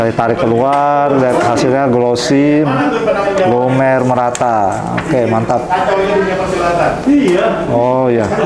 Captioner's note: distant chattering